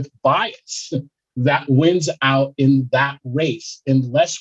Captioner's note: chuckles